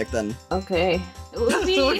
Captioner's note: wearily